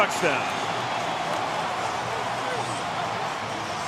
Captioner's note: crowd cheering